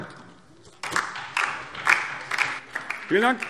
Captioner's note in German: Beifall DIE LINKE